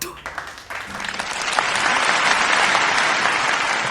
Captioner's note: applause